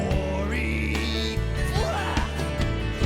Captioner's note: yells